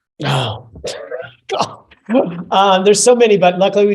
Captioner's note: chuckles